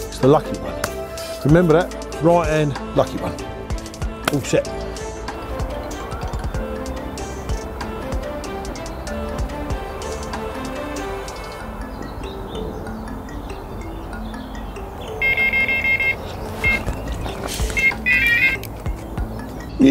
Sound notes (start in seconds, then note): 6.4 mellow music; 15.1 electronic beeping